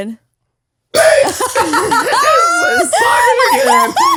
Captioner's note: all laughs